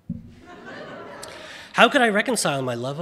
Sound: audience laughing

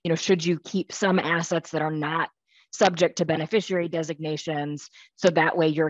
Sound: none

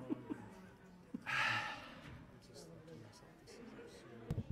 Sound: crowd chattering

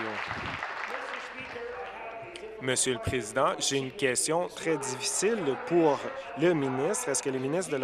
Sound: applause

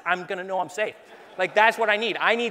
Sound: laughing

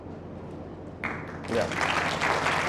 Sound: audience applauding

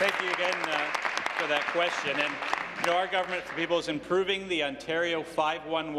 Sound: applause

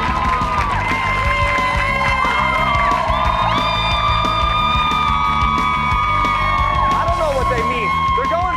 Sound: cheers and applause

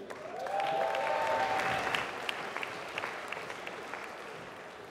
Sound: applause

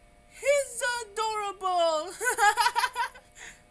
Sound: laughing

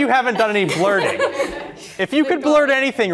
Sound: laughing

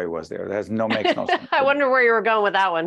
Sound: laughing

